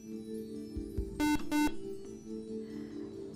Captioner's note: buzzer